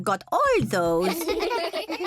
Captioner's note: kids giggling